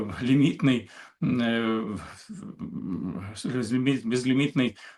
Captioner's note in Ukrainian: прочищення горла